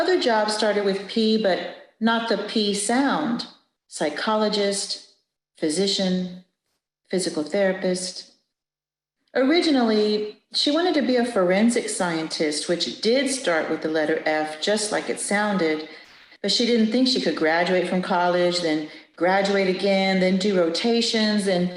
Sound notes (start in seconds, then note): none